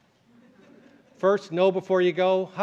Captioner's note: laughter